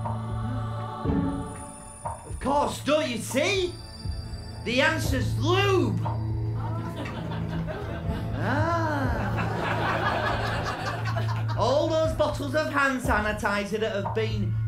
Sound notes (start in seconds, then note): 6.7 loud "oh!" from audience; 8.8 laughter